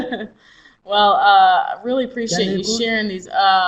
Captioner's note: laughs